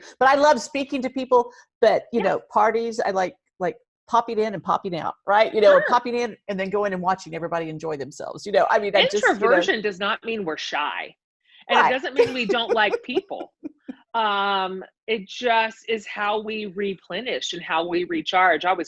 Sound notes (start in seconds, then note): 11.7 laughs